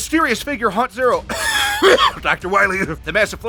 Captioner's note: coughs